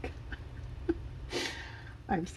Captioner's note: laughs